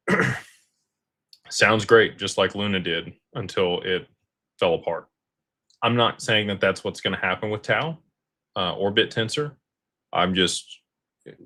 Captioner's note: clears throat